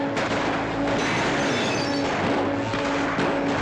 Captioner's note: glass breaks; commotion & gunshots; dramatic music